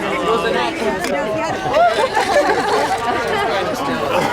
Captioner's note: laughing and talking continues